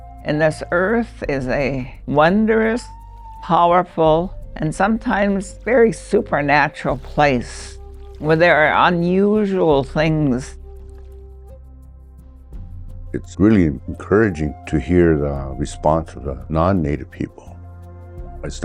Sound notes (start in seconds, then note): 7.4 water trickling